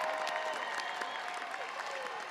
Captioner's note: audience cheering and applauding